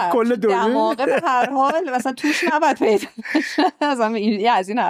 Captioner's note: laughs